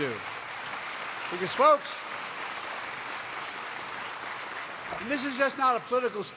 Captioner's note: applause